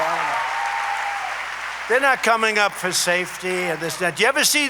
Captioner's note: applause